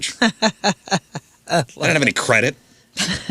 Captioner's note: laughing